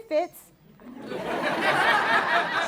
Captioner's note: laughter